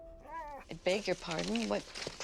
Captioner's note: dog quietly whining